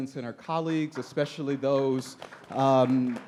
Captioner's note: audience applauds